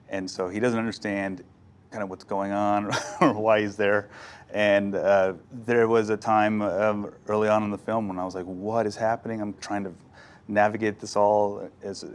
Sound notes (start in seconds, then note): 2.9 laughs